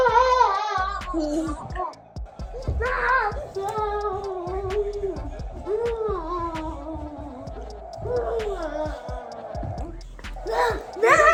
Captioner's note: wailing